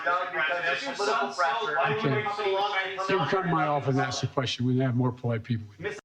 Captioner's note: laughter